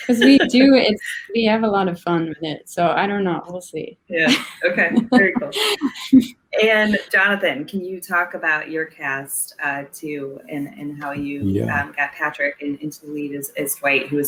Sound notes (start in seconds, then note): 4.8 laughs